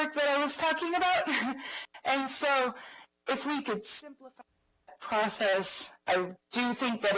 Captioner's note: laughs